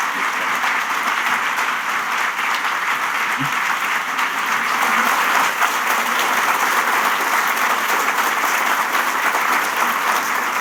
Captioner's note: applause